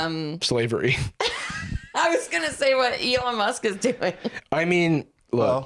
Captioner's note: laughs